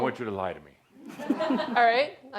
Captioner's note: laughter